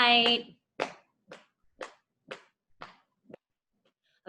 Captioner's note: hands tapping